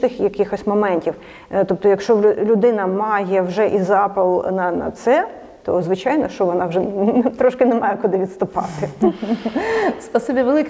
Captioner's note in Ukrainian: Сміються